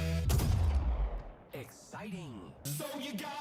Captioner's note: gun fires